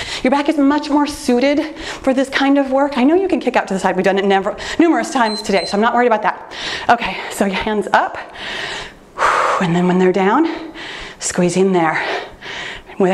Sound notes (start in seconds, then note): 5.1 timer beeping; 8.3 exhaling